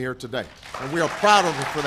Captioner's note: applause